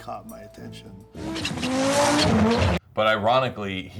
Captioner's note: engine Revving